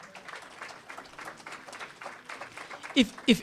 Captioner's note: applause